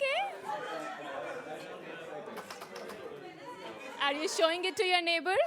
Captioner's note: chatter